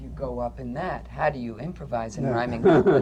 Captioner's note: laughter